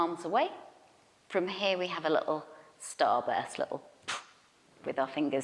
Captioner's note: poof